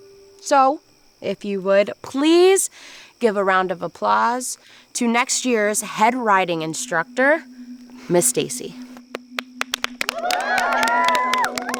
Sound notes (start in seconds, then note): 9.6 campers applauding